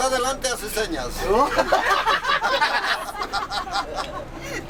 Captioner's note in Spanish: risas